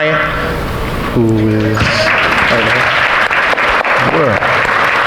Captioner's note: audience applauding